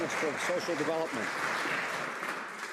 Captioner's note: some Applause